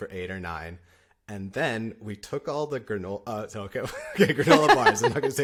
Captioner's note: laughter